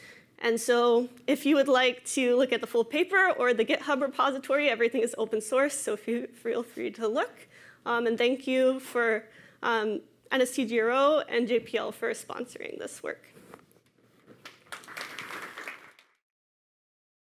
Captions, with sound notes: And so if you would like to look at the full paper or the GitHub repository, everything is open source so feel free to look. And thank you for NSTGRO and JPL for sponsoring this work. [APPLAUSE]